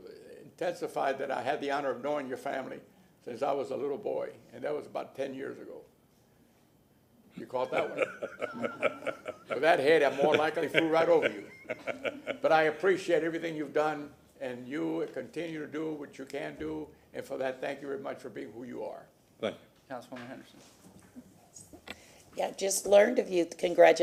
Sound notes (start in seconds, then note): 12.1 laughter